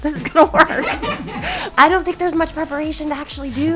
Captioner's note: cast laughing